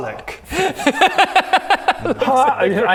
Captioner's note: impressed laugh